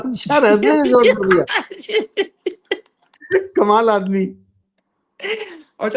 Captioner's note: laughter; laughter